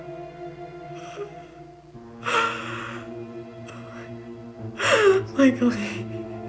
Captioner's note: tense music; sobs